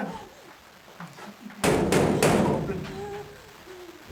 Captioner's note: door banging